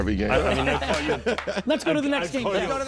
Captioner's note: laughing